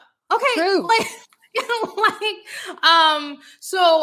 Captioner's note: laughing